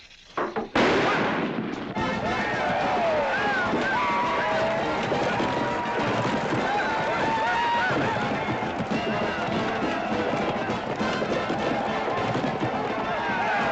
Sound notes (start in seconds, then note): 0.7 firecracker explodes; 1.5 cheering